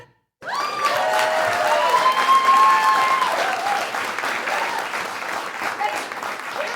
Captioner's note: applause